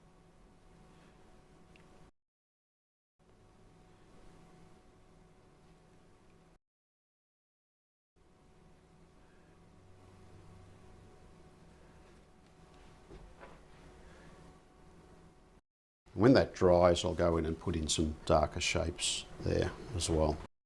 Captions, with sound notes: [silence] When that dries, I'll go in and put in some darker shapes there as well.